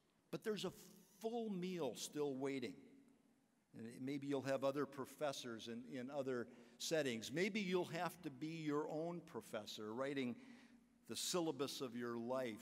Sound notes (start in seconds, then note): none